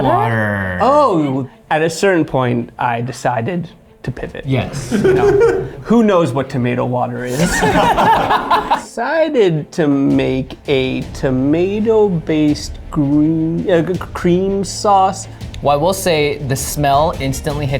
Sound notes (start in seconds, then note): 7.2 group laughs